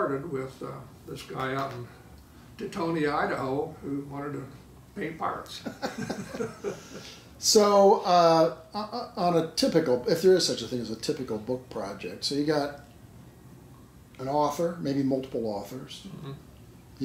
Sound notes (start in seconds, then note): 5.7 laughing